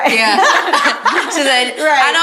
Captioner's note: group laughs